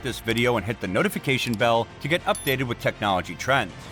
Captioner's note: with a bell sound